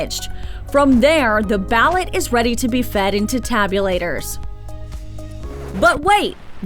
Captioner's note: sound FX of tape being paused